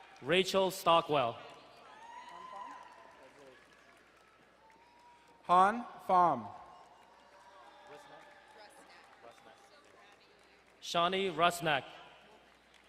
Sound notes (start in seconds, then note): 1.9 crowd cheering and applauding; 6.0 cheering in distance